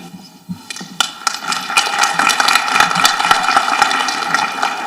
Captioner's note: people applauding